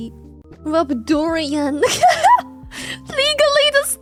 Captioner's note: laughs